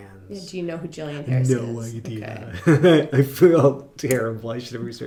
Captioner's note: laughing